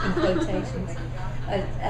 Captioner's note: laughs